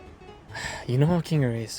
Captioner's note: zooblegasp.mp3